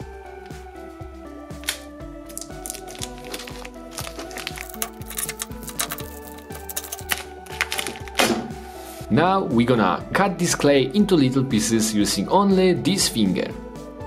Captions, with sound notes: (wrapper crinkling) Now we're gonna cut this clay into little pieces using only this finger.